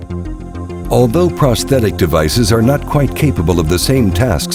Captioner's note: voiceover